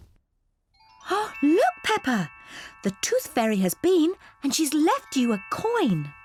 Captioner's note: gasps